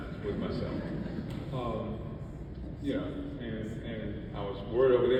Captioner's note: audience laughs